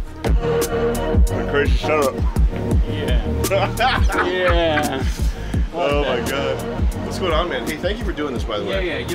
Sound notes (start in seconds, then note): 3.4 laughs